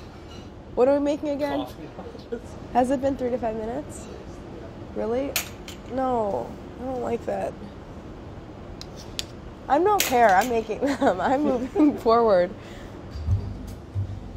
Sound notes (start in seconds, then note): 10.8 laughing